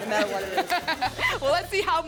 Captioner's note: laughter